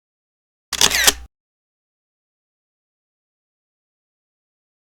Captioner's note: camera lens snapping